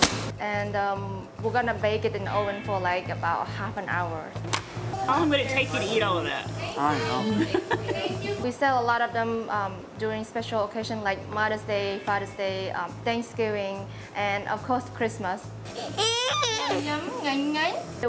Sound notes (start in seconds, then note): 7.1 laughs